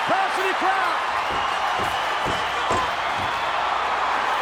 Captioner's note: hand banging